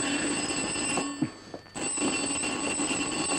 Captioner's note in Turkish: Telefonun zil sesi